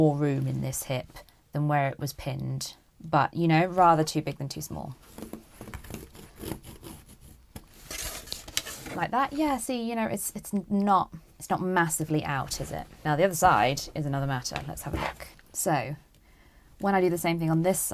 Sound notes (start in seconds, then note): 5.8 pencil scraping